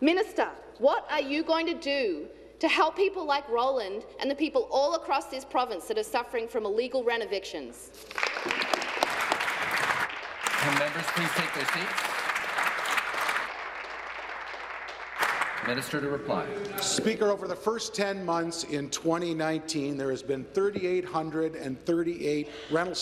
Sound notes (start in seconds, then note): 12.7 applause